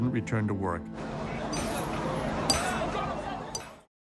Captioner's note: people talking in background